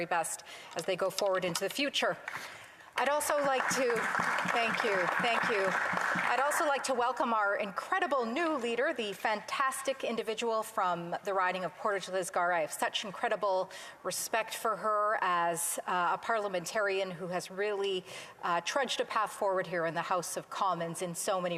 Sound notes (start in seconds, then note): 6.7 some Applause